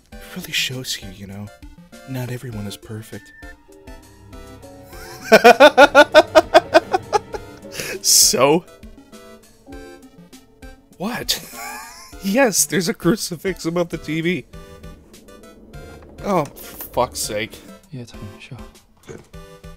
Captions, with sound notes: It really shows you, y'know... Not everyone is perfect. *wheezing laughter* So? What? *wheeze* Yes, there's a crucifix above the TV? Oh, for fuck's sake. "Yeah Tony, sure." "Good."